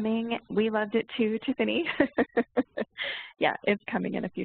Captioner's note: laughs